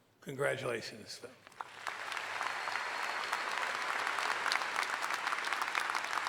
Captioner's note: cheering and applauding